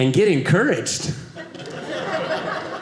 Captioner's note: audience laughing